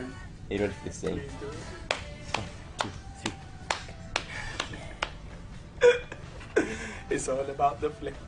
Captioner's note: laughs